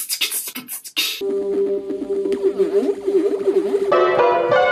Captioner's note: alien noise generator